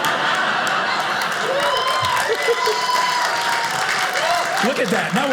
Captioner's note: audience cheers